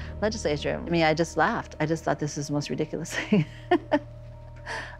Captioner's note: laughs